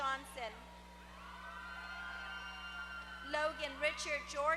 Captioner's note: applause